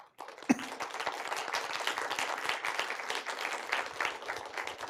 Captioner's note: applause